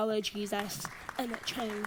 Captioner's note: audience applauds